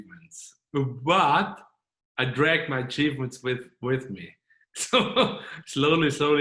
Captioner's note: chuckling